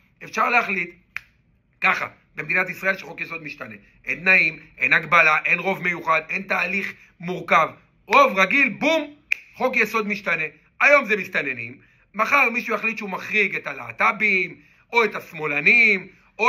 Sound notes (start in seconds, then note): 9.2 snap fingers